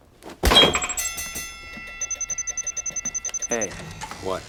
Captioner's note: robot beeps